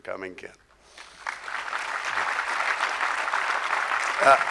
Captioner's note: crowd applause